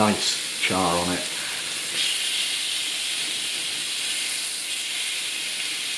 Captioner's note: sizzlin